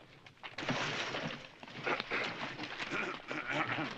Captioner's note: horse snorting; clearing throat